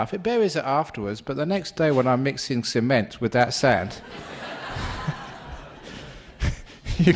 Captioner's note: laughter